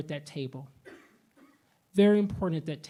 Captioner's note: attendee coughing